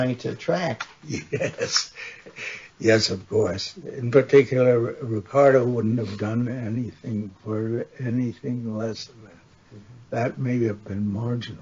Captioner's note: laughs